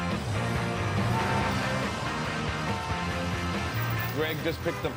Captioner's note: taxicab horn honks